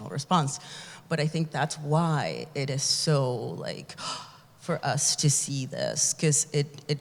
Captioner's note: gasps